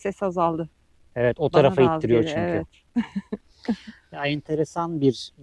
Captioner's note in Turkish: kahkaha